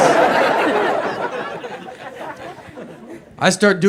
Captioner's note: audience laughs